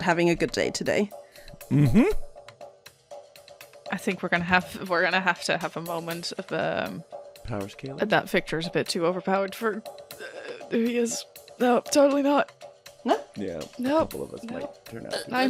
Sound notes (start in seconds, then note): 10.8 strained